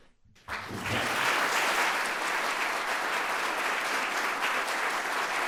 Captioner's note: audience applauding